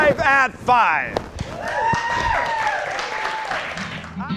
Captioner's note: audience cheers; exciting guitar music